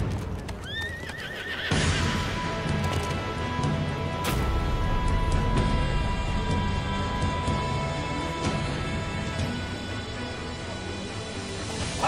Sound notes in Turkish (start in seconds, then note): 0.6 At kişnemesi; 1.8 Fon müziği